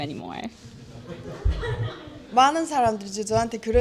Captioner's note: laugh